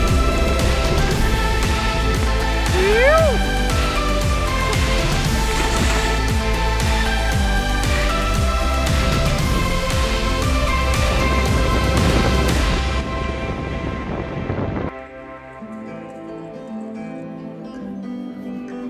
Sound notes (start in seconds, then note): 5.3 water splashing; 6.0 upbeat music; 16.0 relaxing music